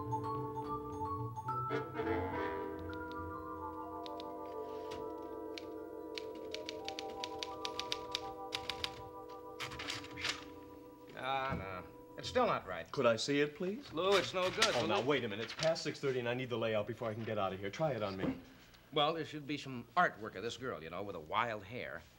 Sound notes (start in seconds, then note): 6.1 typewriter keys